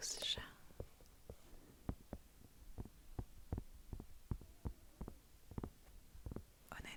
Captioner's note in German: auf das Federmäppchen klopfen